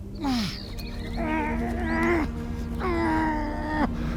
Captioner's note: person grunting